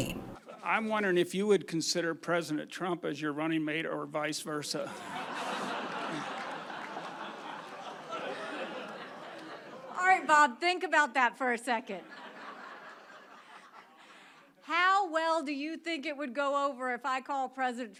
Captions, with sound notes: I'm wondering if you would consider President Trump as your running mate or vice versa. (crowd laughs) Alright, Bob think about that for a second. (crowd laughs) How well do you think it would go over if I called President Trump